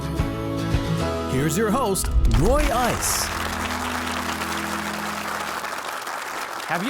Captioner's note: audience applauding